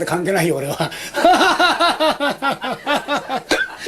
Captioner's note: laughs